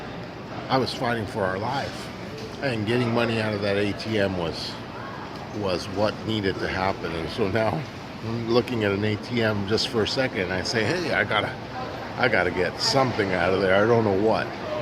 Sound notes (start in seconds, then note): none